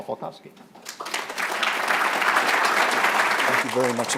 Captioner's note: applause